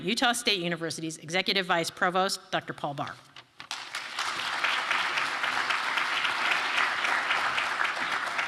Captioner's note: applause